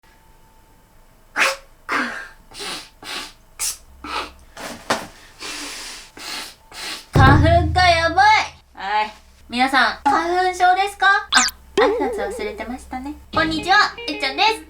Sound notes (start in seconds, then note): 1.3 sneeze; 2.5 blowing nose; 3.6 sneeze; 5.3 blowing nose